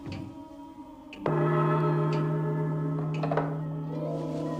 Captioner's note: gong crash